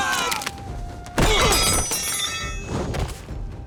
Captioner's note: grunting